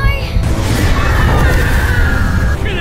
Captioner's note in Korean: 비명